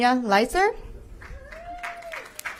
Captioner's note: applause